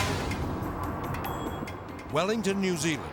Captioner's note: graphics whooshing; car whooshing